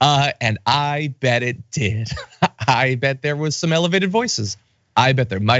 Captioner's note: laugh